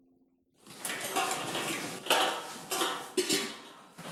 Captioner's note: metal clinking